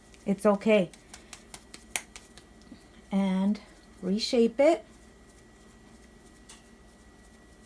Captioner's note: claps masa into tortilla form